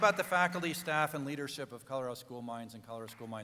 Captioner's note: applause